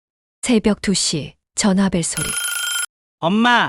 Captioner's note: 2 AM, the sound of a phone ringing